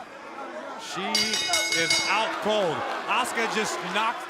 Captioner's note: bell ringing